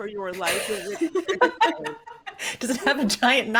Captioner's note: laughing